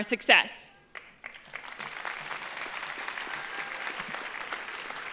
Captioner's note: audience applauds